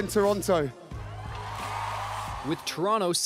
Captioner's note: cheering and applause